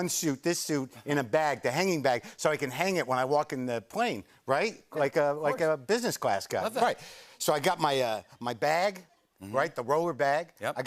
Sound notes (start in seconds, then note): none